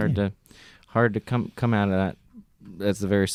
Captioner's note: none